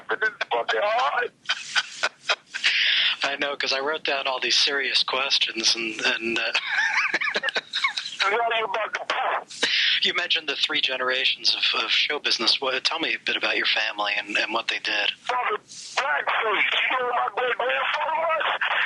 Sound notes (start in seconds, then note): 6.0 laughs